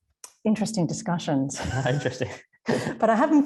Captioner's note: laughs